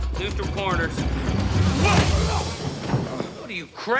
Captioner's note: grunting